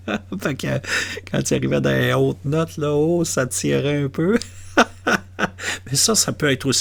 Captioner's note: laughs